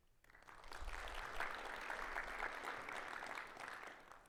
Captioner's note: audience applauds